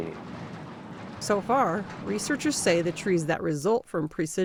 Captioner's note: voice-over